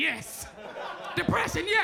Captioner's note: crowd laughs